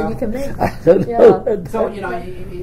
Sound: laughs, coughs

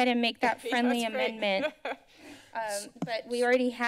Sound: laughter

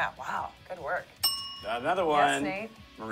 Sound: bell dings

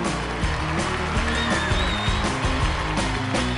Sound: cheers and applause

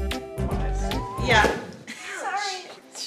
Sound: laughing

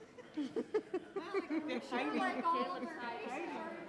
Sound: audience laughs

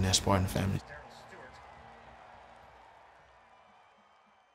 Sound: crowd cheering

